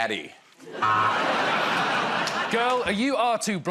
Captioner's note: laughter